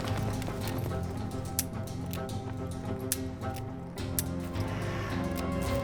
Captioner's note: gun clicking empty